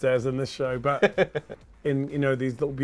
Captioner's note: laughs